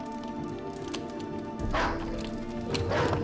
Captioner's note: dog barking